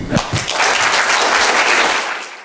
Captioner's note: applause